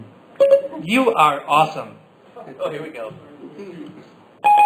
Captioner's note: Siri beep